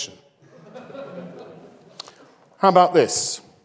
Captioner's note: audience laughs